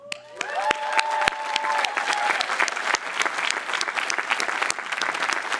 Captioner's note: audience applauding and cheering